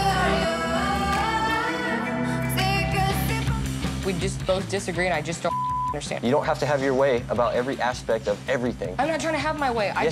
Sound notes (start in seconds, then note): 5.4 beep